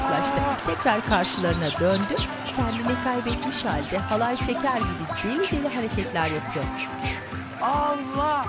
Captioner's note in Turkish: Müzik - Hareketli; Islık sesi